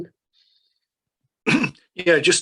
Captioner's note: throat clearing